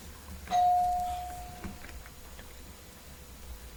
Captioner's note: bell chimes